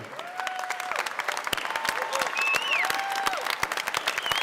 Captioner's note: cheers and applause